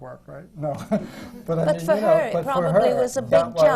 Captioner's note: laughs